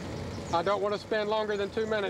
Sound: voiceover

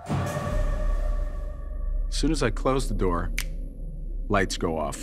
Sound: snaps

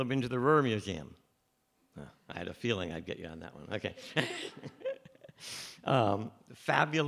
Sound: chuckles

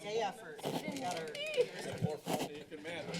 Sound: background conversations

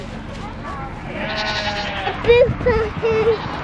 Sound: goat bleats

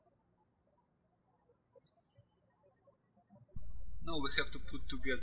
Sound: birds chirping

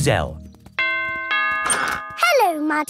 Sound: doorbell rings

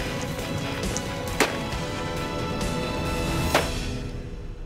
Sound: gunshots ring

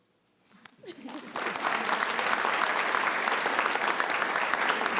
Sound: all clapping

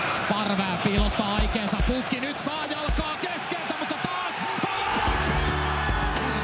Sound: commentator and public shout

